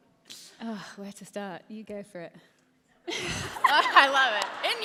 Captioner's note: laughter